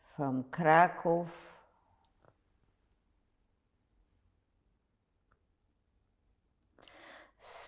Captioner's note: pauses 6 seconds